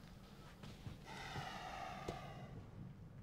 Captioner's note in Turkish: Nefes sesi